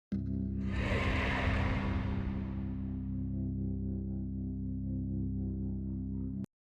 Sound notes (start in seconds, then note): 0.1 gentle music; 0.6 logo whooshing